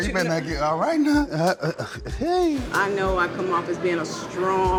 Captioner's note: chuckles